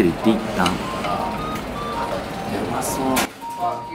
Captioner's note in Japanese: 小声